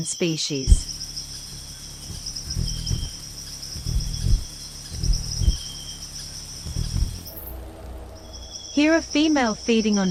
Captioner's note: birds chirping; bird's wing flapping